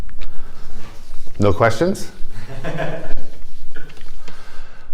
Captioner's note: laughter